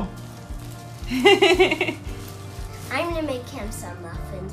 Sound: laughs

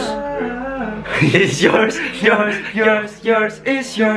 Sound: laughing

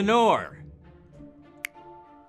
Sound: snaps

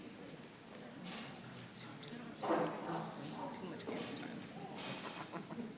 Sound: people softly chattering

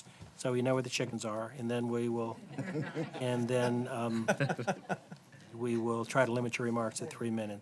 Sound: laughter

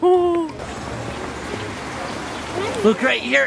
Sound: water rushing

